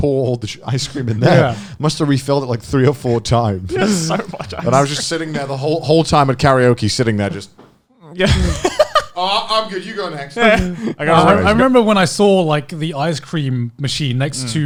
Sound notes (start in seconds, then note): 8.3 laughing